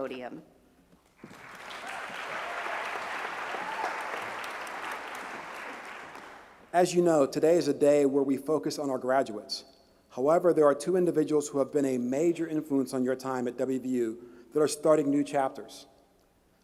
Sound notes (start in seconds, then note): 6.4 applause